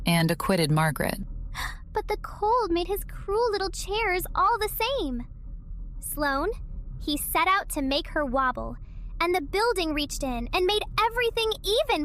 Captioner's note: gasp